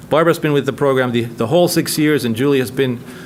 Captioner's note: none